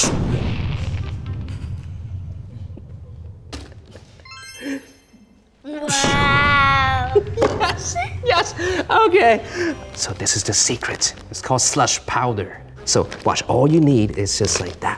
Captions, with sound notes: (poof) - Woow! - Yes, yes okay. (laughs) - So this is the secret, its called slush powder. So watch, all you need is just like